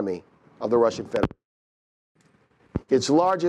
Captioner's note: mic cuts out